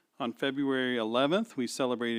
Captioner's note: none